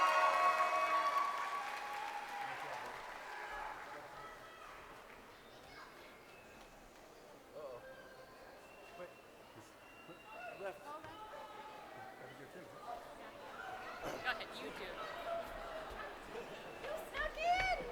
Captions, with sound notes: Nicholas Joseph Zakowski. (crowd cheering)